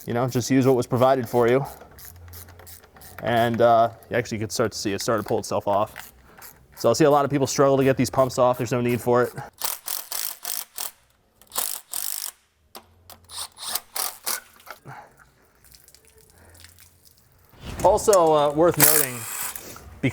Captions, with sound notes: you know, just use what was provided for you. You actually could start to see it start to pull itself off. So I'll see a lot of people struggle to get these pumps off, there's no need for it. (drill whirring) Also worth noting,